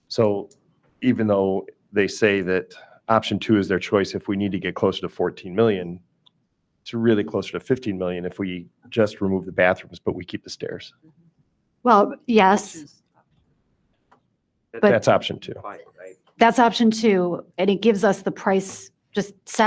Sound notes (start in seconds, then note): 13.0 speaks faintly